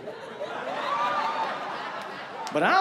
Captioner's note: laughter